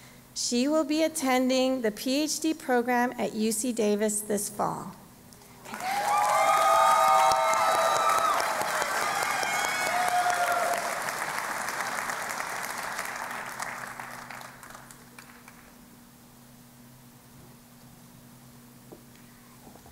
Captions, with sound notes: She will be attending the PhD Program at UC-Davis this fall. [ Cheering and Applause ]